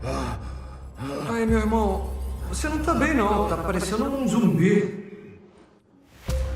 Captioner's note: Booth, distorted